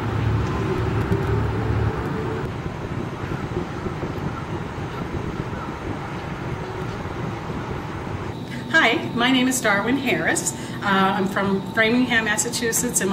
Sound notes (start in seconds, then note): 2.6 wind blowing